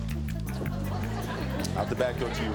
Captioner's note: suspenseful music; audience laughing